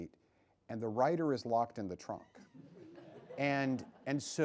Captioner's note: laughs